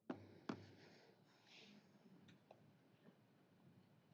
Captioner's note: none